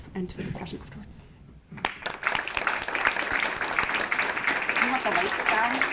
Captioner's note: applause